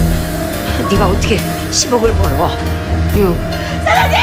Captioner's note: Tiếng ồn phát sóng trực tiếp